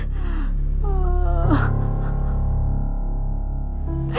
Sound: crying

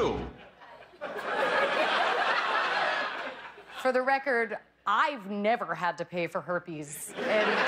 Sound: laughter

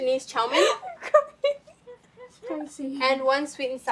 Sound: laughing uncontrollably

